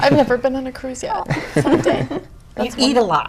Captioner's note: chuckles